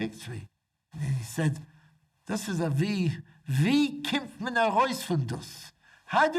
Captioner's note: speaking foreign language